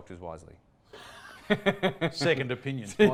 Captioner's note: laughing